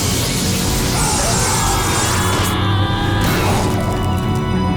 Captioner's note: screaming